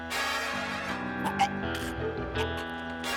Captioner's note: gagging